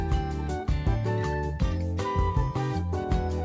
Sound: none

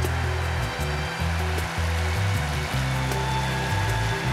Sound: dramatic music; rain drumming

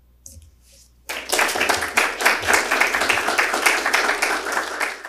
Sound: audience applauding

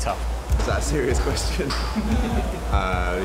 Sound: laughs

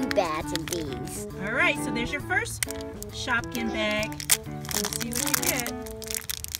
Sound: voiceover

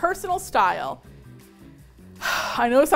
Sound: sigh

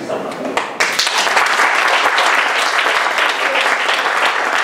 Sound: audience applauding

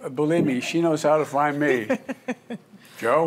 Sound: laughs

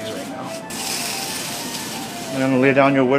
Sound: sand scraping

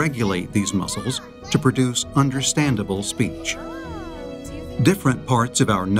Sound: toddler making speech sounds

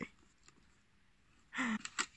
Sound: gasp

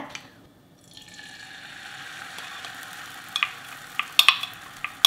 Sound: egg sizzles

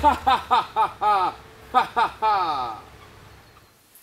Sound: evil laughter

